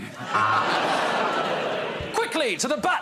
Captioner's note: laughter